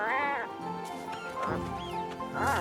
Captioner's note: squeaking; grunting